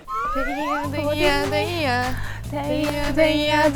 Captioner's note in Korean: 시끌시끌